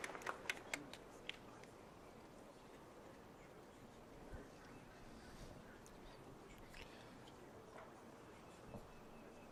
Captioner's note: applause